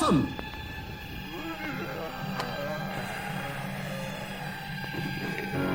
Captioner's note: zombies groaning